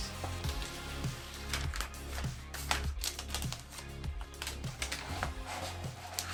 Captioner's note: gentle upbeat music; paper crinkling